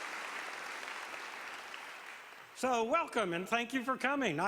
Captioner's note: applause